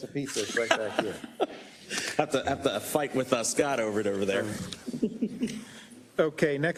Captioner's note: laugh